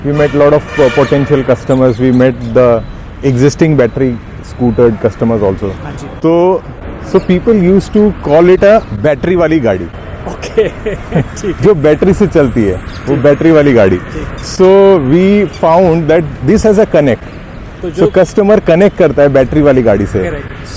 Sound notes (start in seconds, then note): 10.2 laughter